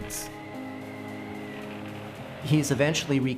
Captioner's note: wind rushing, wood creaking